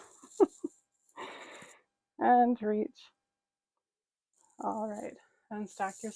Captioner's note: chuckling